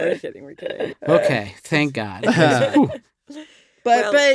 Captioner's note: hosts chuckling